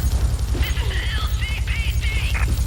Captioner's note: sirens wailing